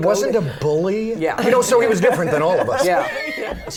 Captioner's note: laughter